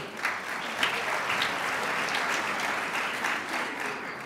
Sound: crowd applauds

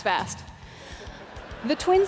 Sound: audience laughing

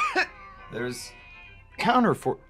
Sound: Mrs. Webb coughing

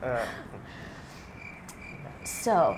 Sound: laughing dies out; crickets

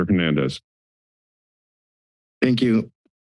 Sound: silence

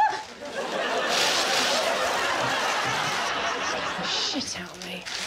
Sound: Victoria exclaiming; audience laughing; plastic rustling

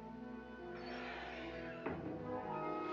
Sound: door squeaking

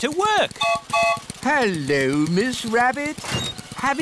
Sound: gertrude's whistle blows

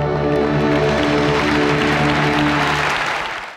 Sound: audience claps

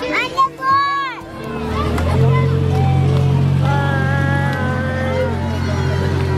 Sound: indistinct background chatter

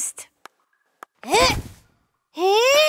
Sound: grunting

